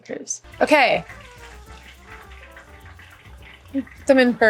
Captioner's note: lumpias crackling